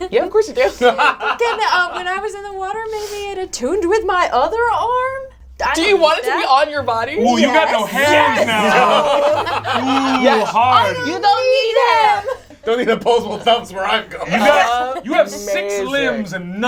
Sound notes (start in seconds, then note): 1.2 laughs; 7.8 all laugh